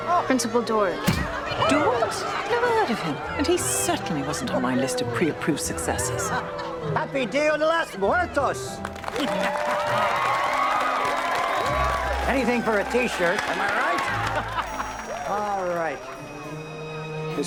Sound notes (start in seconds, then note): 8.7 applause; 14.0 laughs